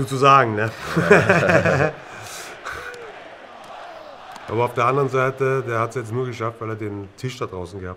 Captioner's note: lachen